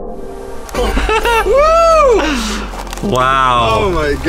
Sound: laughing

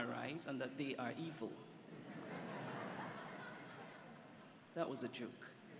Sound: laughter

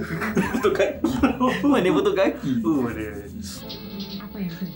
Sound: laugh

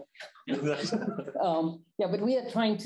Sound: chuckling

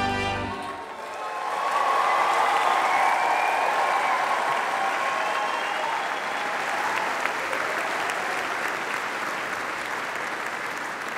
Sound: applause

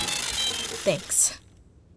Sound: beeping

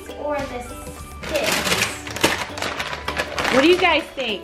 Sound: bag crinkles

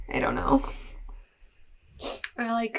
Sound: sniff

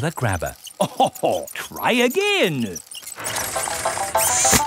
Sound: chuckles

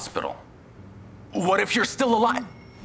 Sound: phone beeps

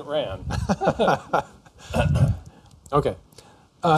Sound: laughter

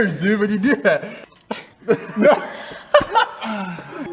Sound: double chin takes effect again as the two laugh

